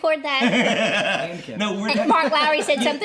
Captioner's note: laughing